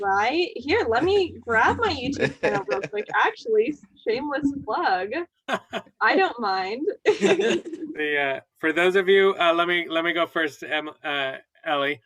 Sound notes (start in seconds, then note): 7.0 laughter